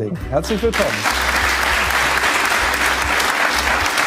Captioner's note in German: Applaus